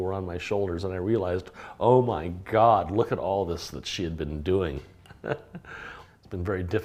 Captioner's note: laughs